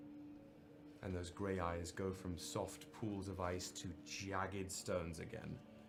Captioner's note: none